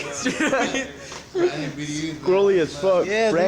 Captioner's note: soldiers laughing